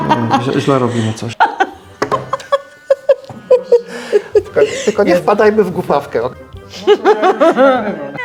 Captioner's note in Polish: śmiech